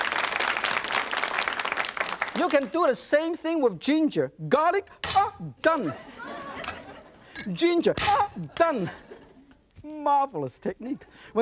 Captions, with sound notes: (audience applauds) - You can do the same thing with ginger. Garlic. Oh! Done! (audience laughs) - Ginger. Oh! Done. - Marvelous technique!